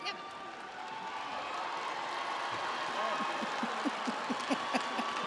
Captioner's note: audience cheers; audience applauds